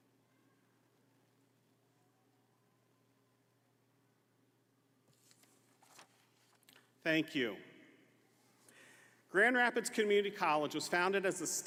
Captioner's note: moment of silence